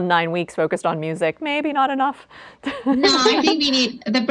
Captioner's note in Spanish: risas